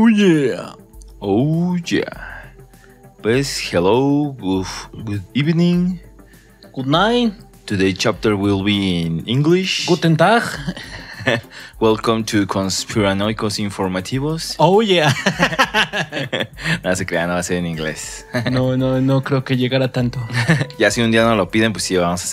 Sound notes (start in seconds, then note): 15.1 laughs